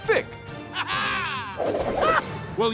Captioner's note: laughing